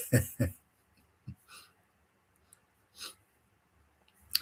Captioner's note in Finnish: naurua